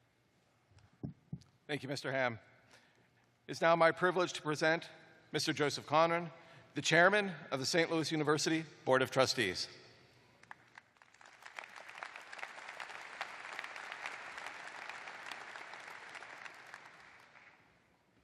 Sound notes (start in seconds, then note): 6.0 applause